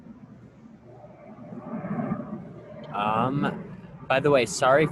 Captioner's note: plane engine roars